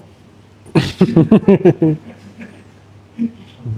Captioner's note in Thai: เสียงหัวเราะ